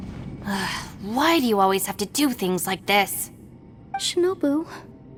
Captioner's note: sigh